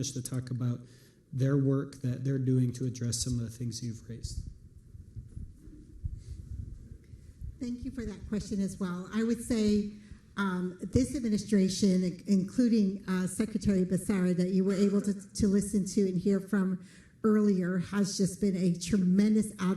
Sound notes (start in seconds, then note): none